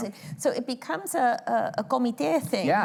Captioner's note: spanish